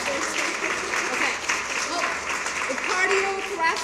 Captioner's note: cheering and applause